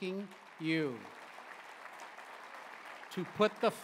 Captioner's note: applause